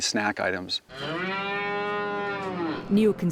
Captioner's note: cow mooing